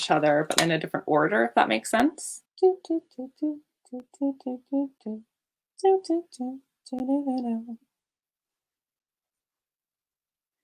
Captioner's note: humming an animal crossing song